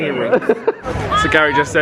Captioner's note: laughing